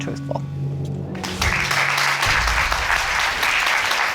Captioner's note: applause